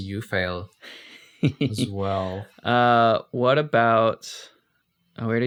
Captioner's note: laughs